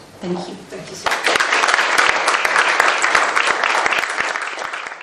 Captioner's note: audience claps